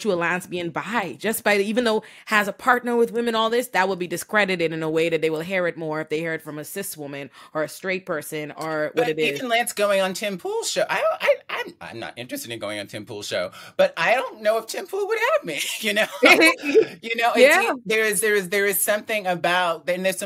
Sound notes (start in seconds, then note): 15.6 laughing